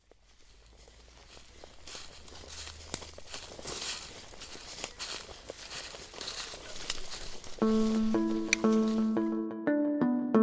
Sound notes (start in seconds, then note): 1.1 brush swishing; 7.0 light music